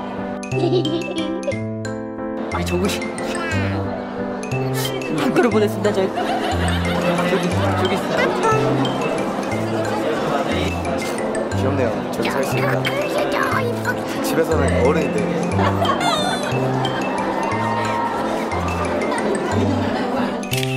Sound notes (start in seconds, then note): 3.7 laughing; 8.5 background chatter; 15.4 members laughing; 16.9 background chatter